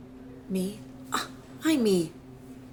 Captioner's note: Wendy scoffs